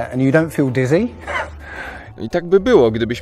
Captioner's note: interviewer reacts with laughter